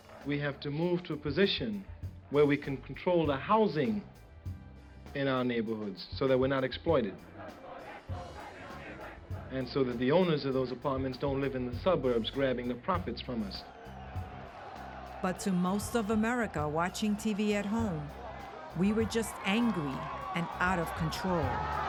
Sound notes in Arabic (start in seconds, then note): 13.6 صراخ الحشد; 21.6 الناس يصرخون